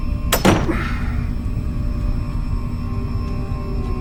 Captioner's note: suspenseful music continues; tool clicks; suspenseful music continues